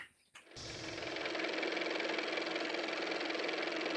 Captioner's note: car motor